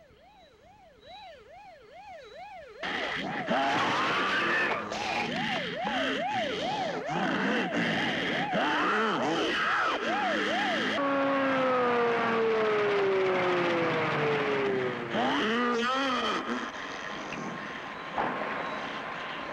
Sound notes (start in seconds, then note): 5.2 growling